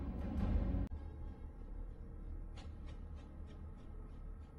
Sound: epic music playing; epic, mysterious sounds

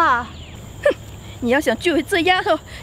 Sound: scoofs

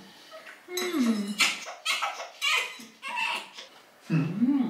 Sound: crying 😂

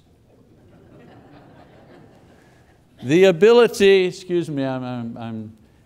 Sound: audience laughing

